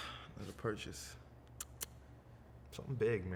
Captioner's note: clicks tongue